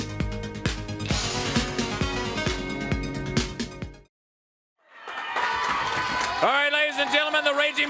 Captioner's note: crowd cheering